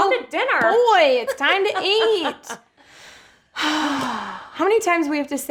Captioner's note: sigh